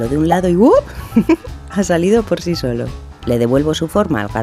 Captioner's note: chuckle